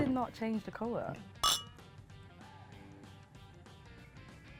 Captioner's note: glasses clink